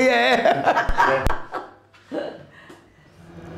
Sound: laughter

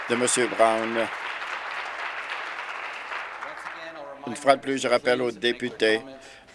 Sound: applause

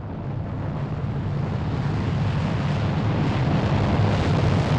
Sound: rocket engines roaring

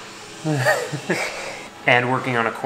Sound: giggles

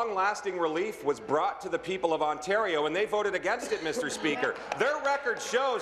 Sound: applause

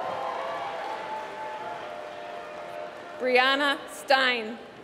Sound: applause

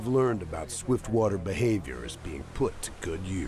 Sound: voiceover

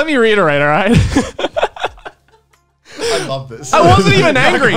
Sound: everyone laughs

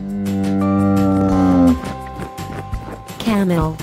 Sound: camel sound

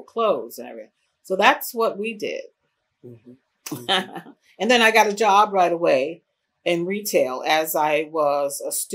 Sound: laughs

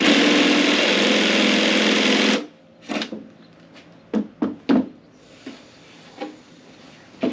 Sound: power tools

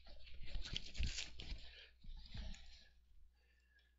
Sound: paper rustling

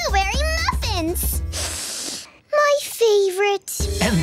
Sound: sniffing

